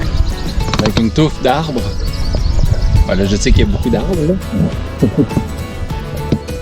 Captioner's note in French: rires